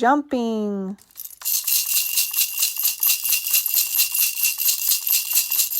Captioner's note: rattle shakes rhythmically